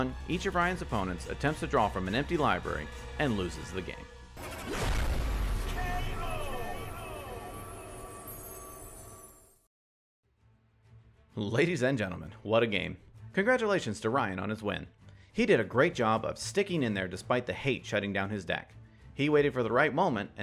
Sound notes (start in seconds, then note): 4.4 logo whooshing